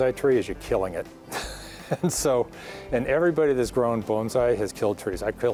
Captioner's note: laughs